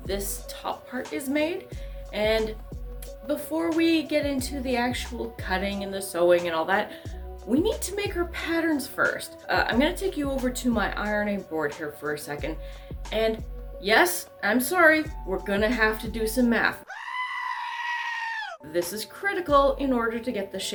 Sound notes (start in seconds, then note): 16.8 goat scream